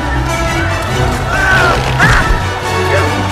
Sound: screaming

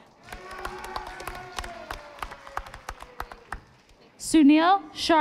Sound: audience applauding

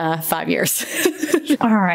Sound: laughs

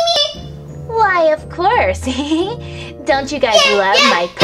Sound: laughs

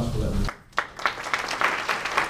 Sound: applause

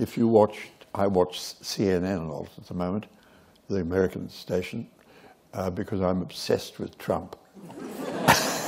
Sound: laughter

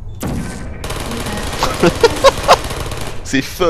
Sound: laughter

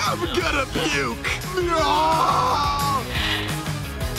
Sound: screaming

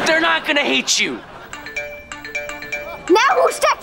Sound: chiming

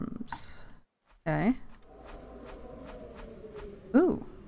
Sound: gust of wind sound

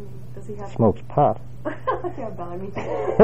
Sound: laugh

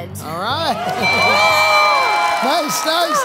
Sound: timer dings

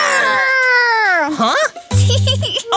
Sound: Finny giggles

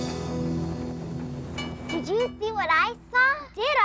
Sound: train bell dings

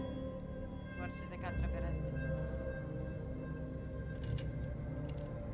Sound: speaking foreign language

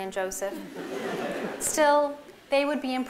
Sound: laughter

